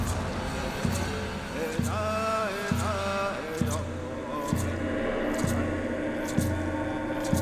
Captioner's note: chanting in Native language